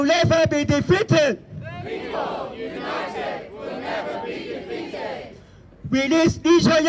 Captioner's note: crowd responds "People united will never be defeated"